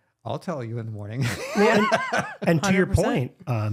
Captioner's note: laughing